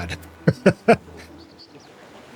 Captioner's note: laugh